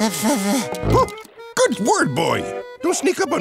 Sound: gasping

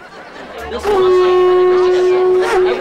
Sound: horn blowing

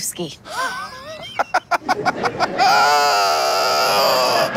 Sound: Jimmy laughs

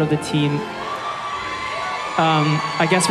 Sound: cheering

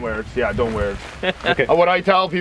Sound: chuckling

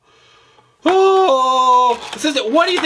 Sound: wailing

